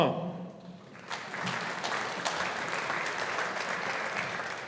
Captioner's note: audience applauding